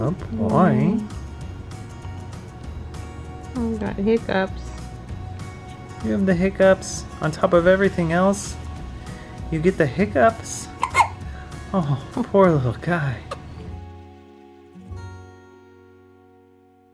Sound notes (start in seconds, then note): 10.7 hiccups; 14.2 gentle music